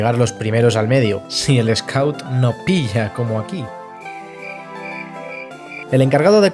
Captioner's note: cricket noises